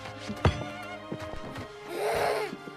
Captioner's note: Helen Moaning